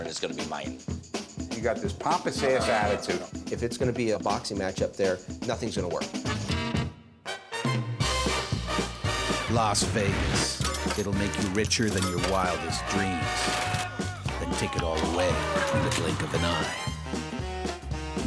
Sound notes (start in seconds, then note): 12.4 crowd cheers